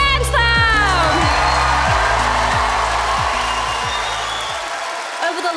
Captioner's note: applause